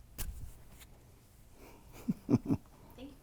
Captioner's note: laughing